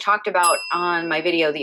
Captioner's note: bell dinging